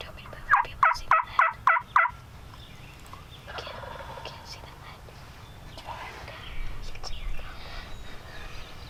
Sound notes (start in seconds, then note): 3.0 turkey gobbling